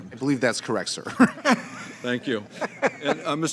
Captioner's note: laughter